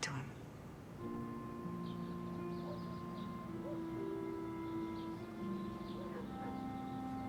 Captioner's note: gentle music; dog barking